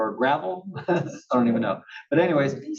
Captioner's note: laugh